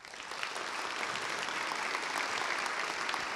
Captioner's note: applause